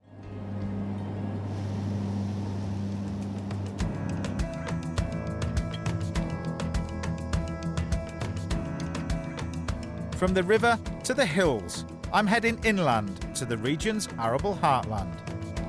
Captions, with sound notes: (plane roaring) (gentle music) From the river to the hills, I'm heading inland to the region's arable heartland.